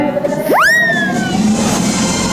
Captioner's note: upbeat piano; whistle noise; upbeat music